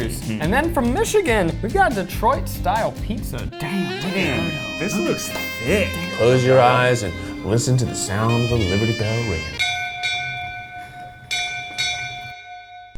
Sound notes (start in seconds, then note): 3.7 jazz music; 9.7 bell ringing